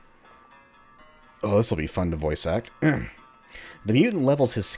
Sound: clears throat

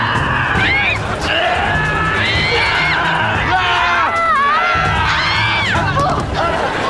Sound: screaming

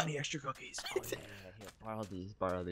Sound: whispering

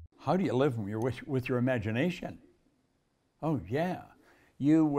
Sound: none

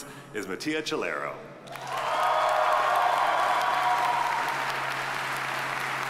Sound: audience applauding

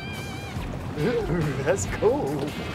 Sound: shivers

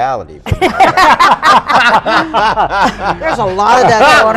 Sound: group laughs

